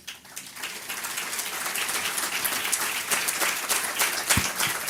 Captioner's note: audience clapping